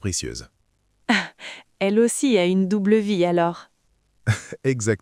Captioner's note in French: rire